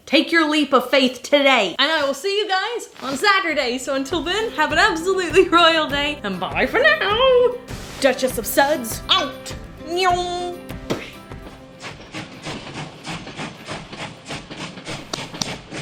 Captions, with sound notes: Take your leap of faith today. And I will see you guys on Saturday. So until then, have an absolutely royal day and bye for now. Duchess of Suds, out. (train chugging)